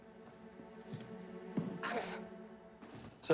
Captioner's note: scoffs